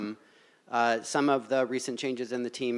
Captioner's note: none